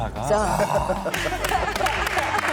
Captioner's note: exclaiming